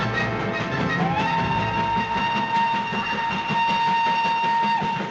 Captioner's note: whistle blows